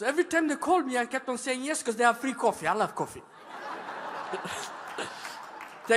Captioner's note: laughter